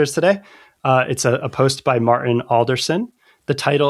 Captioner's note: uh